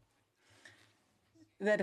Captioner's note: speaking in French